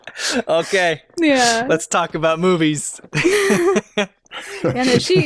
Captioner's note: laughter